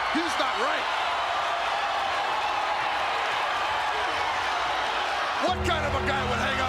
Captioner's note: applause